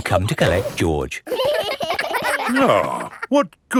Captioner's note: giggling